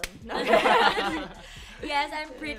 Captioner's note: chuckles